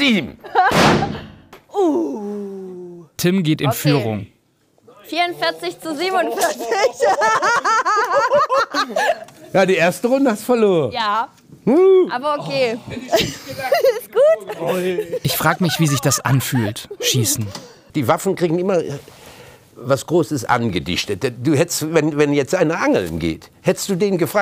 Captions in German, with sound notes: Sieben. - Uh ... Tim geht in Führung. (lacht:) Okay. 44 zu 47. Die erste Runde hast du verloren. - Ja. Aber okay ... Alles gut? Ich frage mich, wie sich das anfühlt. Schießen. Die Waffen kriegen immer was Großes angedichtet. Du hättest, wenn jetzt einer angeln geht, hättest du den gefragt: